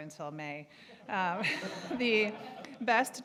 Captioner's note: audience laughing